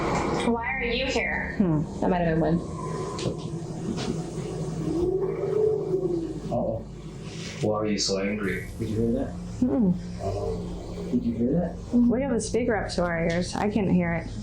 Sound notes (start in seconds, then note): 5.4 wind noises